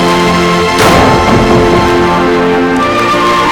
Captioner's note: door slams